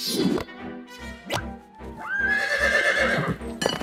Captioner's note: horse whinnies